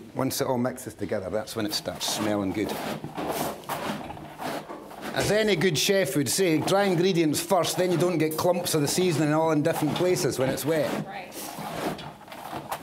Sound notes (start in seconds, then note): none